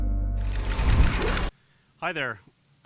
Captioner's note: gate closing